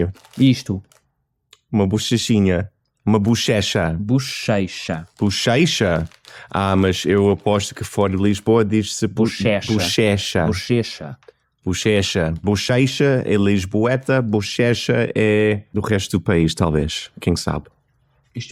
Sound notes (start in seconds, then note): 4.9 Lisbon accent